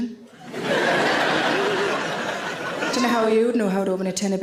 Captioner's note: audience laughing